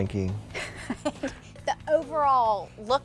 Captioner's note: laughs